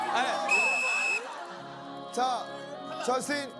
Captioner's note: he finally blows the whistle